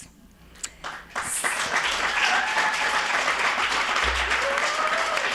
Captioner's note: audience applauding